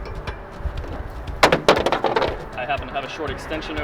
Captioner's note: clattering